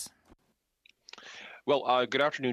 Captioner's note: speaking French